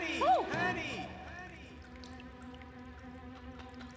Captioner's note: echoing